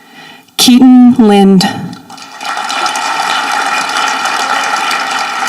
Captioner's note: audience applauding